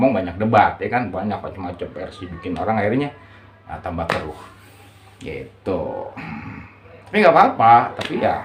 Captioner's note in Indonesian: berdehem